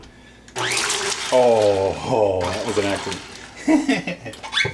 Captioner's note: laughing